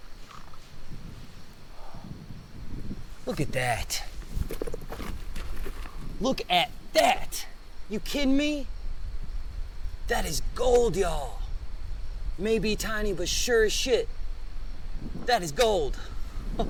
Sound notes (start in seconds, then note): 0.3 insects chittering; 4.2 stones clattering; 16.1 laughs; 16.4 wind rustling